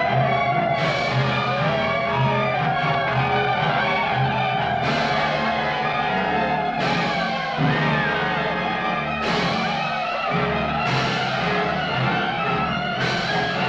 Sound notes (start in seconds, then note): 3.6 Yaqui shouting